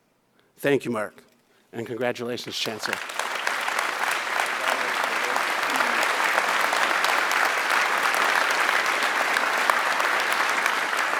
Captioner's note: applause